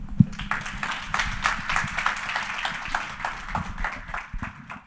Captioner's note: audience applauding